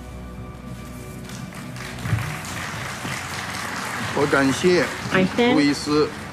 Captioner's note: applause